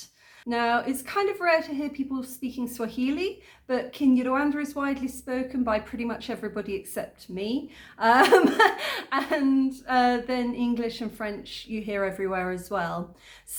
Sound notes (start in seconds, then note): 8.2 laughing